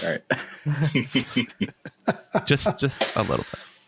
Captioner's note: laughter